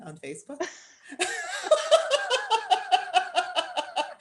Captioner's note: laughter